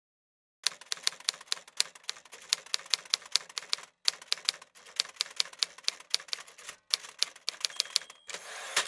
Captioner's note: keys of a typewriter being pressed, one at a time; typewriter dings and slides back to start a new row